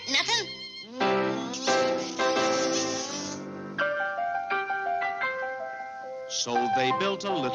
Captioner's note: upbeat romantic music; lips smacking